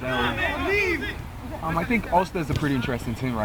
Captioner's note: players shouting